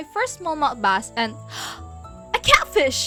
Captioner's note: drammatic gasp